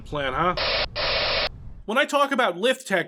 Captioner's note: spray painting